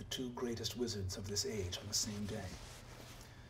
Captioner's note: none